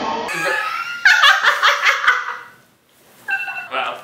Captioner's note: witch cackling